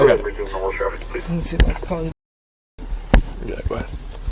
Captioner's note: tch